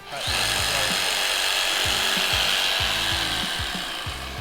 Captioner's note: jigsaw buzzes